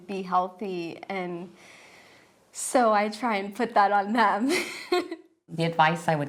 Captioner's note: laughs